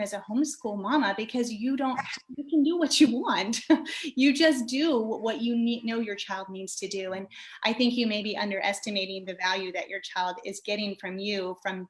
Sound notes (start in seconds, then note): 3.7 chuckles